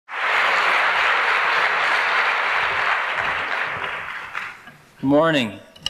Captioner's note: applause